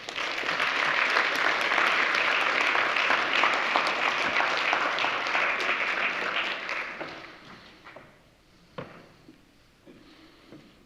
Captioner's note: applause